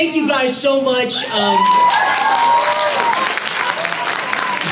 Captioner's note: audience cheers